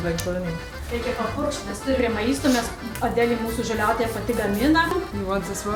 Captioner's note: speaks in lithuanian